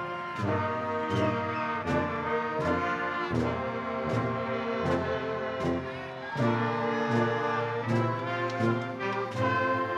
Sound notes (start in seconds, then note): 1.0 audience whistling